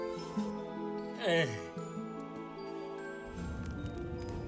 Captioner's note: sigh